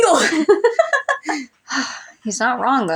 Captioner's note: laugh; chuckle